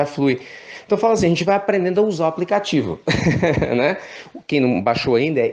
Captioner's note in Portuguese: Risos